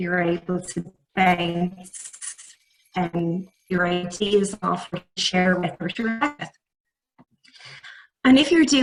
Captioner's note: audio distorts